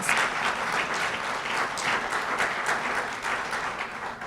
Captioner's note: applause